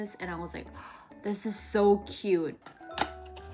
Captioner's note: gasp